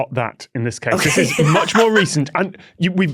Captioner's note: laughs